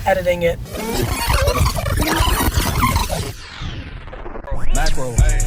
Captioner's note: tape rewinding